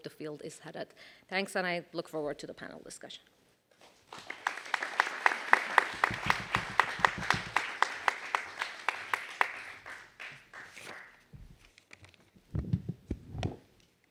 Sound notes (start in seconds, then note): 10.1 applause